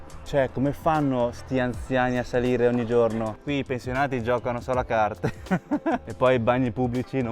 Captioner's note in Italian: risate